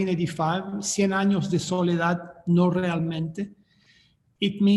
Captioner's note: speaking in foreign language